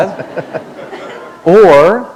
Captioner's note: laughter